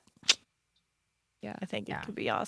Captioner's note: tongue clicks